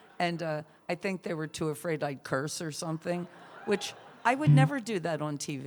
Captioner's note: laughter